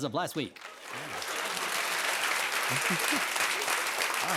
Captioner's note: cheers and applause